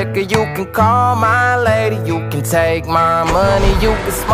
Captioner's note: engine Sounds